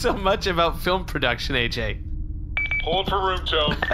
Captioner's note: device beeps